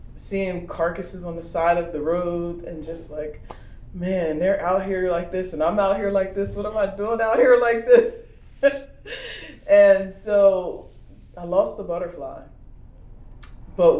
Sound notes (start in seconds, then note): 8.6 laughs